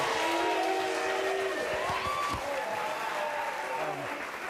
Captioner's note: audience boo's; audience cheers and claps